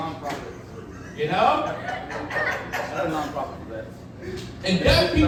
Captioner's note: audience laughing